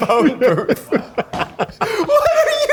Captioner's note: laughing